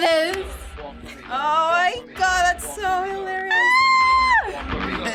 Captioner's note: claps; squeals; both laugh